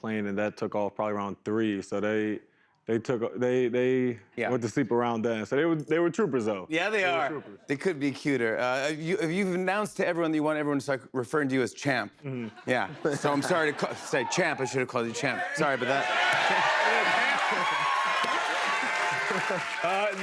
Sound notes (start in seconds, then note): 15.3 cheers and applause